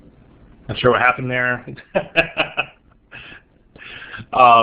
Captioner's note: laughing